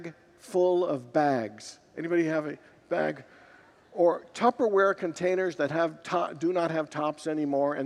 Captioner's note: congregants laugh